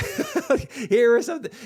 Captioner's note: laughs